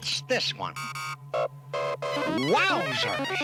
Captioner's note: beeping